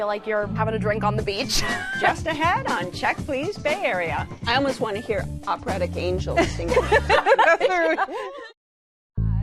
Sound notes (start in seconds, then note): 6.4 laughter